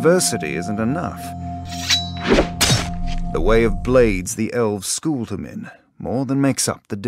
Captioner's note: knife scraping